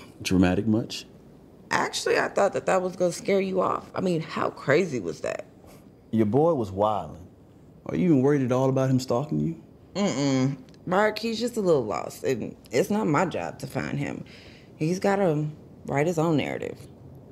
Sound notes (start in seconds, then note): none